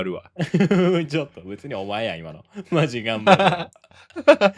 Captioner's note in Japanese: 笑い